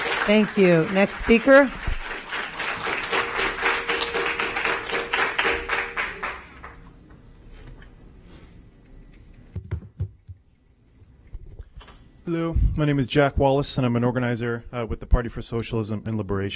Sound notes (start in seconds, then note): 4.3 applause